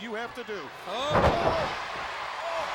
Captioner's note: body thudding